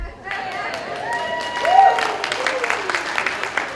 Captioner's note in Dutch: Gejuich